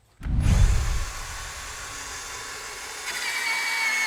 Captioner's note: slugger whirring